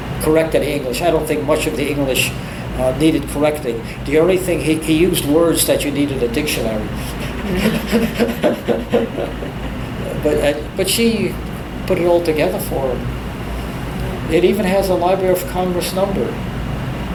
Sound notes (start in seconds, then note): 7.0 laughs